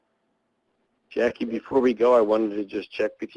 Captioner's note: voiceover